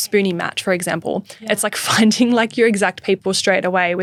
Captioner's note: laughing